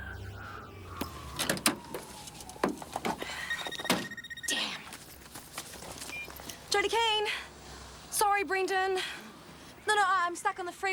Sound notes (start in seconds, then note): 3.2 phone ringing